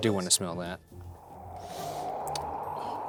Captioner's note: wind whooshing